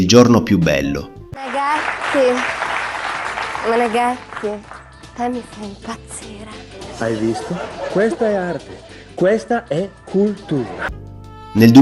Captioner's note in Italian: applauso